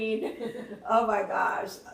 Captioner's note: laughing